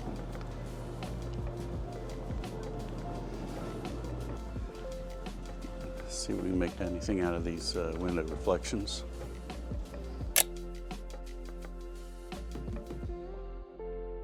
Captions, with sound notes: See if we can make anything out of these window reflections. (camera clicks)